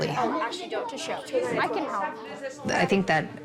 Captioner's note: kids chatting indistinctly